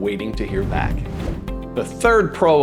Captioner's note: video graphics whooshing